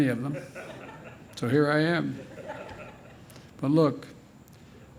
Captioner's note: laughter